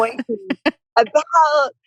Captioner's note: laughs